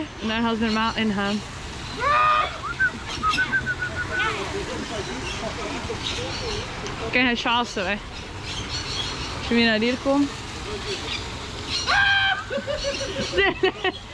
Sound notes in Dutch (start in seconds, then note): 2.6 fluiten